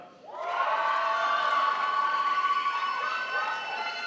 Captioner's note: crowd applauds